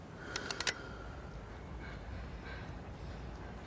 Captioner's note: gun cocks